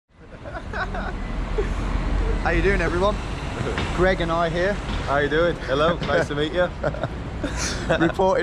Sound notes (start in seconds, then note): 0.3 giggling